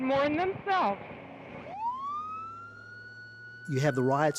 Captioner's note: siren wailing